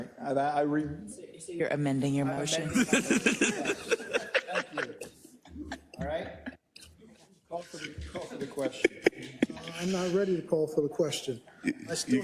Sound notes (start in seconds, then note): 2.6 laugh